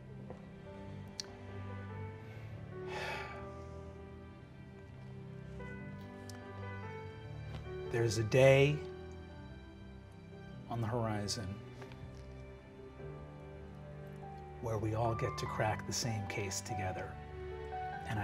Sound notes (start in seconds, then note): 2.9 sighing; 5.6 soft piano continues